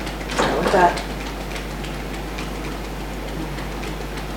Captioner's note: tapping